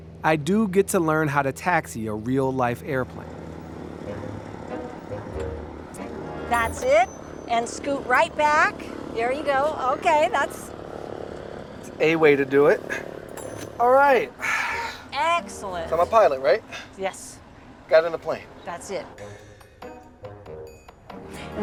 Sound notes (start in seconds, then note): 2.7 gentle music; 3.9 plane engine roaring; 19.0 gentle music